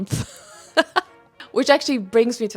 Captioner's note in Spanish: risas